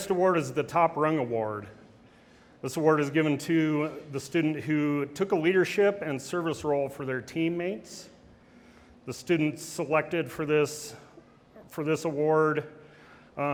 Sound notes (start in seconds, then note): none